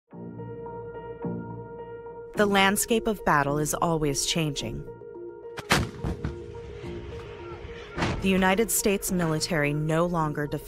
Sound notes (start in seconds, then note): 5.6 artillery blast